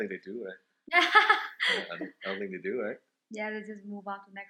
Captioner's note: laughs